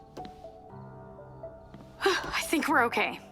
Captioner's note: door opens and closes